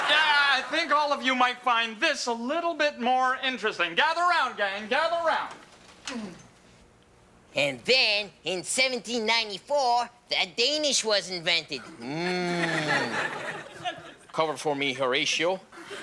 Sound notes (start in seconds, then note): 0.0 audience laughing; 12.2 audience laughing